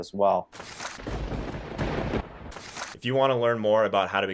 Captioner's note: lightning crashes